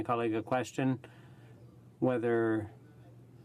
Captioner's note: speaking in french